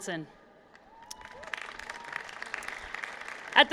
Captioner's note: applause